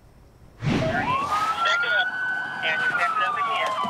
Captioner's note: siren; radio traffic